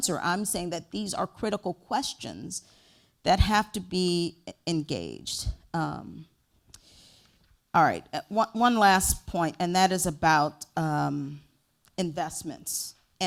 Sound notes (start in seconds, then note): none